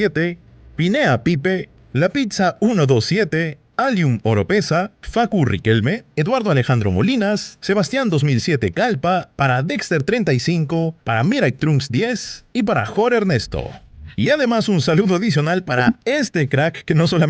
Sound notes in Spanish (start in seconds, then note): 2.5 Whosh sfx